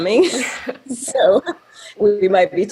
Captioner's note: both laughing